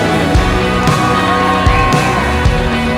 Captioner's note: audience cheering